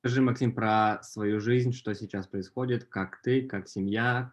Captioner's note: foreign language